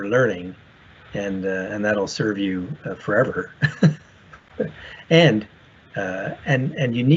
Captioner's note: chuckles